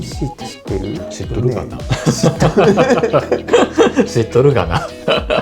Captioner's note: chuckle